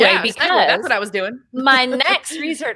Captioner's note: laughs